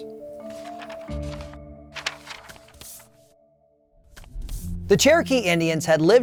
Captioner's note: gentle music; paper rustling